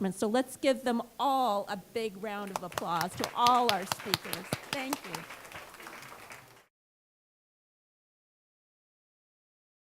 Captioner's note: applause